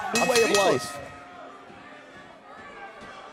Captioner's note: crowd chatter